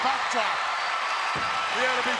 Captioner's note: crowd cheering